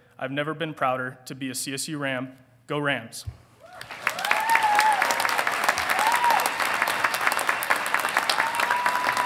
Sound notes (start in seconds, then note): 3.6 audience cheering; 3.7 audience applauding